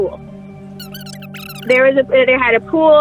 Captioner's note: high-pitched, indistinct chatter